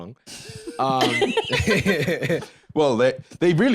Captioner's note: all laughing